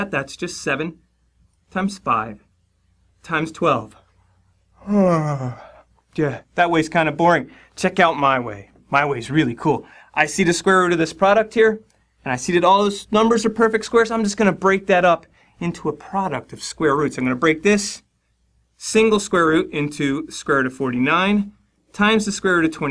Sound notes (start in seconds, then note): 4.7 yawn